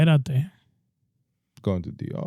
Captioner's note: speaking In Foreign Language